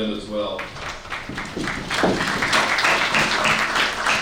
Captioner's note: audience clapping